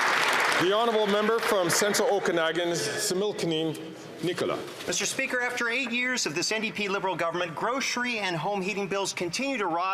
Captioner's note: some Applause